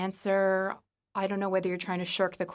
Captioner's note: speaking in French